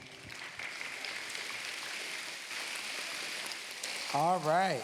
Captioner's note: applause